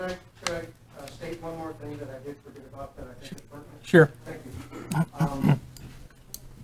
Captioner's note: man speaking from back of the room off microphone